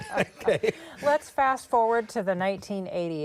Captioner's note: laughter